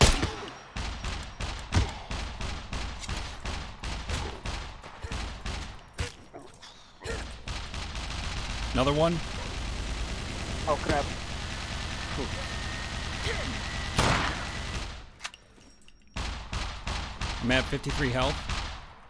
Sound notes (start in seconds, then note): 0.2 mech Gunshots; 11.4 mech Gunshots